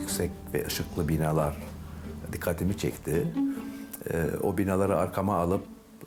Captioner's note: continues speaking in foreign language